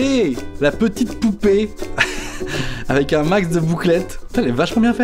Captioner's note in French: rire